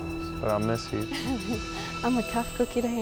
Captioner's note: chuckles